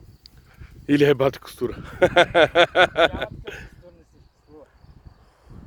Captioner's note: laughing